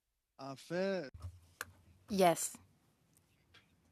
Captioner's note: speaking French